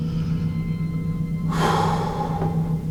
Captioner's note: exhales